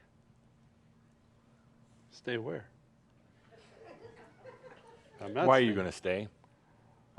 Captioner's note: a few giggles